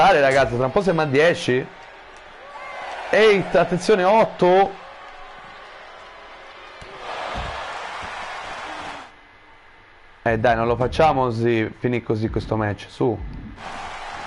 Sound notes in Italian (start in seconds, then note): 4.2 Applauso